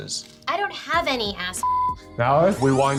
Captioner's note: beep